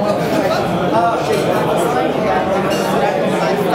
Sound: all chatter loudly

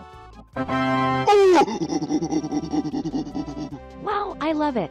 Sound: monky noises

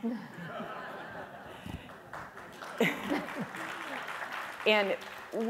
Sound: audience laughs and applauds

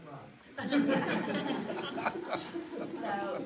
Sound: audience laughs

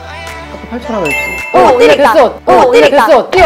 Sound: ding

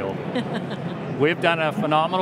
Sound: laughs

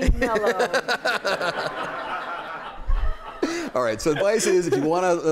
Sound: laughter

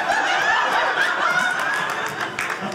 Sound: audience laughing

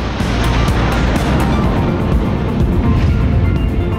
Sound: roar of jet's afterburner engine

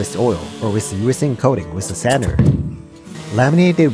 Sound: sandpaper

